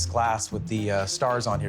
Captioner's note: none